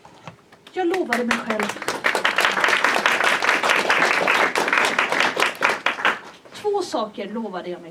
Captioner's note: applause